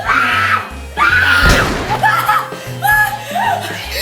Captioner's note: gunshot